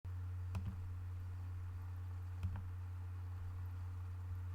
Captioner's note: clicking